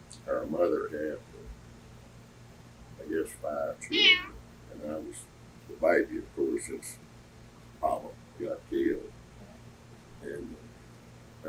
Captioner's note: cat meows